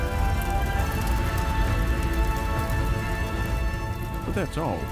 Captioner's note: dramatic music; fire crackling